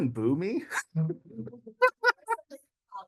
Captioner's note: laughter